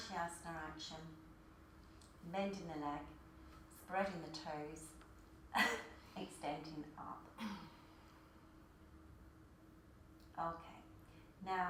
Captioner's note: coughs